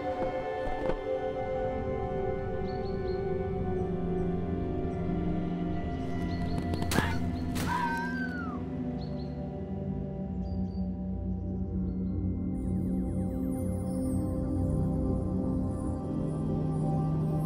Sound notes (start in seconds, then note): 0.1 footsteps stop; 2.5 music turns ominous; 5.6 snow creaks and loudly crunches; 7.6 fox cries twice; 10.0 forest sounds fade, droning and chimes enter